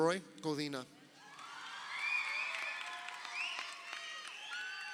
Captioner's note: crowd cheering